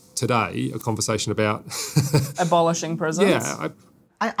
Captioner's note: laughs